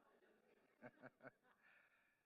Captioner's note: laughs